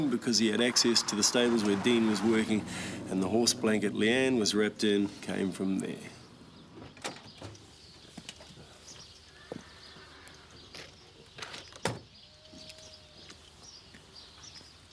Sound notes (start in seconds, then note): 7.2 car door clicks; 8.4 birds chirping; 11.9 car door thuds